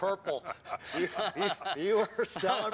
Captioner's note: laughter